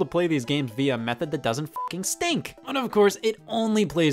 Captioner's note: beep